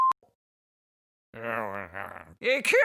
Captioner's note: Han mutters